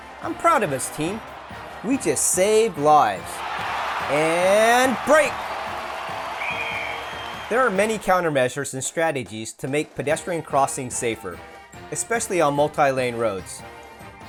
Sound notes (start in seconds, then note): 6.3 whistle